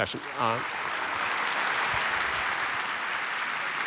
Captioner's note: applause